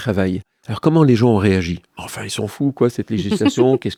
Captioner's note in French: Rires